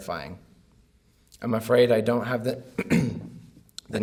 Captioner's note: clears throat